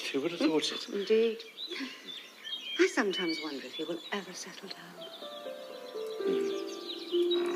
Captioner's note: sigh